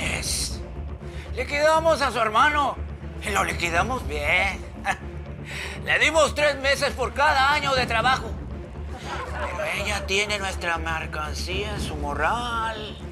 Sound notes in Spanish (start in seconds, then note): 4.4 Ríe